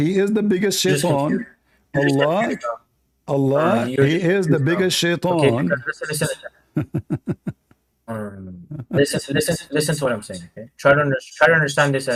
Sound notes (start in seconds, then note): 6.7 Ketawa